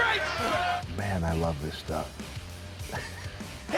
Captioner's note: laugh